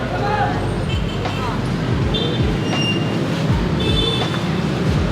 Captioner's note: horns honking